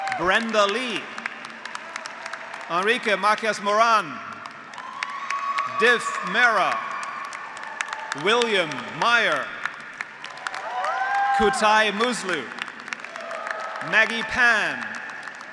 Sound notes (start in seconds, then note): 1.4 graduates cheering; 1.6 graduates applauding; 5.2 graduates applauding; 5.2 graduates cheering; 7.3 graduates applauding; 7.3 graduates cheering; 9.8 graduates applauding; 9.8 graduates cheering; 13.2 graduates applauding; 13.2 graduates cheering; 15.2 graduates applauding; 15.2 graduates cheering